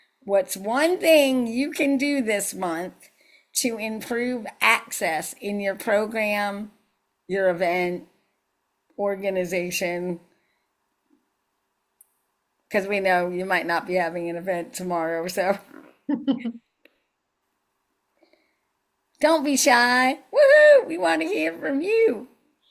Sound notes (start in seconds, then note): 16.0 laughs